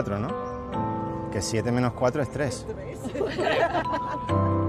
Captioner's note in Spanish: todos ríen